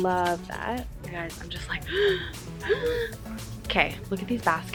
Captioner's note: gasping